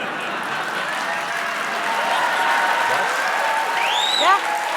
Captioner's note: cheering and applause